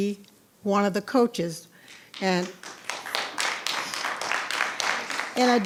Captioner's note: audience applauding